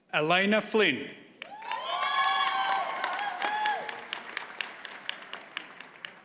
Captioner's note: audience cheers and applauds